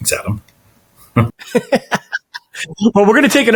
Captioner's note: chuckling